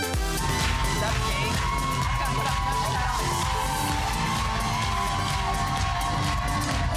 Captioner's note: applause